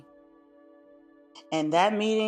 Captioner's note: pause